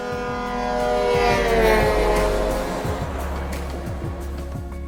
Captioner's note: truck horn blaring